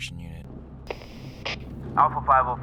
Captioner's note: radio crackles